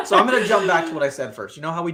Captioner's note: laughing